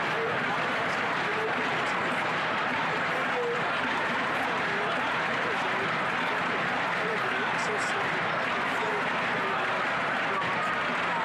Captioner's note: chanting